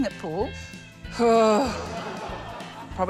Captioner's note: sighs; laughter